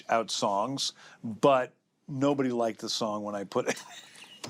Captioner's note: laughs